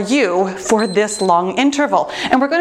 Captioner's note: timer beeps